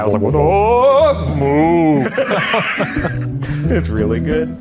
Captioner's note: both laughing